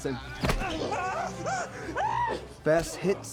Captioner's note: screams nervously